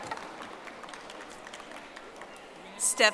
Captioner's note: audience applauding